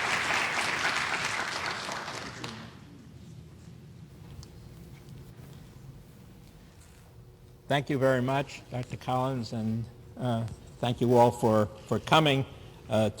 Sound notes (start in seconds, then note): 0.0 applause